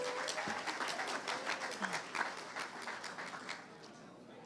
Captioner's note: audience applauding